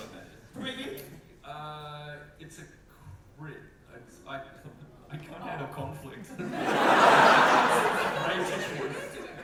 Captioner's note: audience laughter